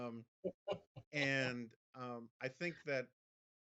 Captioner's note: Mara laughs